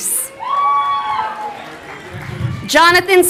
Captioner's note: crowd cheering